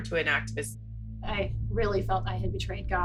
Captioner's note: soundbite of archived recording